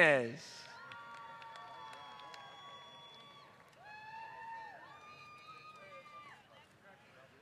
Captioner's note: applause